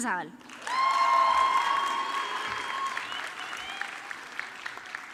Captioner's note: audience clapping